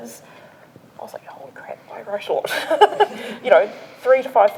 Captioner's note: laughs